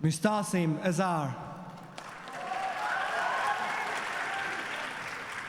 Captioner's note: applause